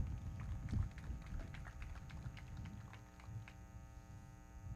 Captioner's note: everybody clapping